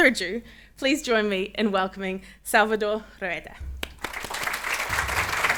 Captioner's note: applauds; attendees applaud